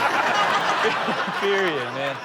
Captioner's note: all laughing